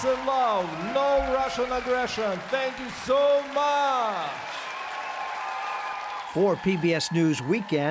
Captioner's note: applause